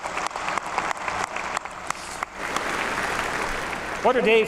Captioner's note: applause